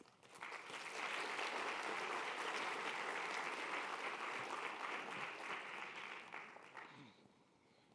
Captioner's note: applause